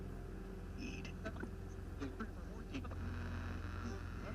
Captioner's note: radio buzzing